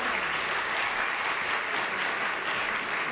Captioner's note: applause